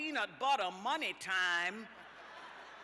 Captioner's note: laughter